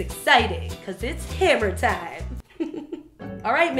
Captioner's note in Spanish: risa